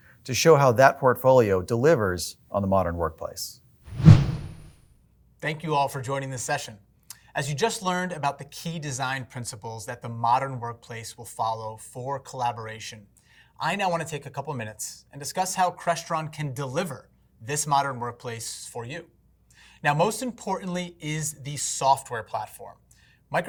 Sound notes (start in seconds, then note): 3.8 whoosh